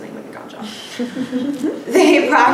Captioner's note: laughter